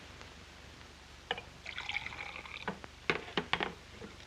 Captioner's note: liquid pours